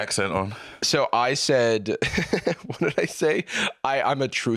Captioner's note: laughs